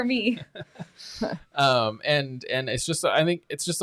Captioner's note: chuckles